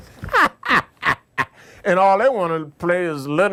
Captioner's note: laughs